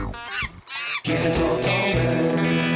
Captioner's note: monkey screaming